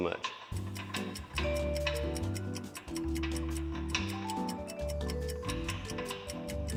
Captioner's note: clanking